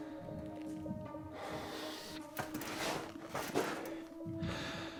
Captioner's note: Jamie sighs